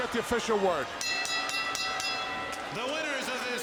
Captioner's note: bell ringing